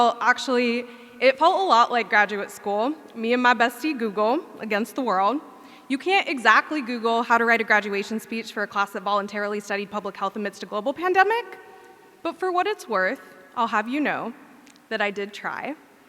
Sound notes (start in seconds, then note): none